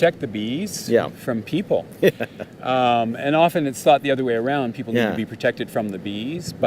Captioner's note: laughing